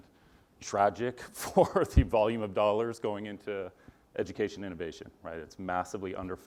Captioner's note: laugh